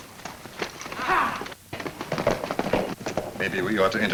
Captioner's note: men shout